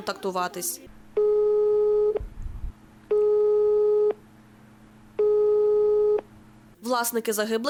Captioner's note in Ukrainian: Гудки